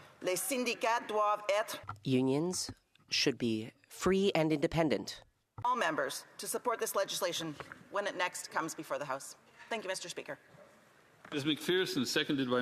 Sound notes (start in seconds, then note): 4.8 speaking French